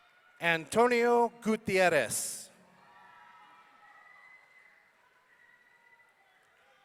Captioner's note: audience cheering